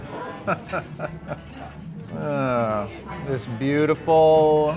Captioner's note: laughing